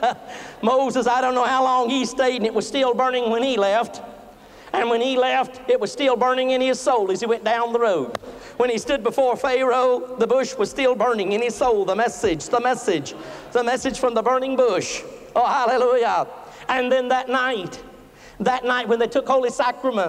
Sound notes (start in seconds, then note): 8.1 claps hands